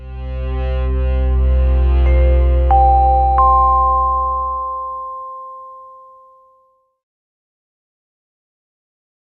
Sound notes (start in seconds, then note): 2.5 bell tone chimes